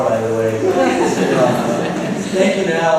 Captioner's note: laughter